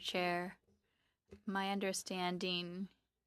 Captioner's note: speaking French